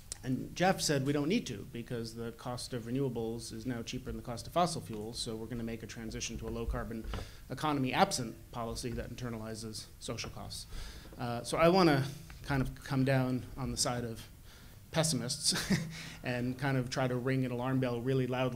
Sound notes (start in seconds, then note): 14.3 laugh